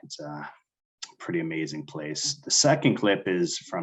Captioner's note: none